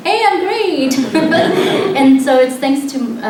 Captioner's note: laughter